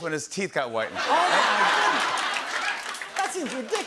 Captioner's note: laughter